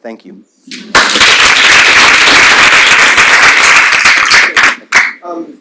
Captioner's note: audience applauds